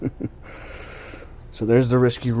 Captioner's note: laughter